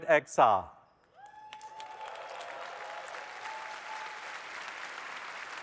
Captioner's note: applause